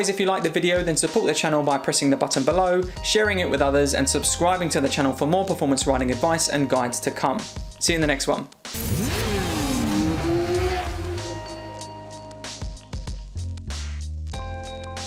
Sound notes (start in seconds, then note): 8.7 engine revving; 11.3 chill music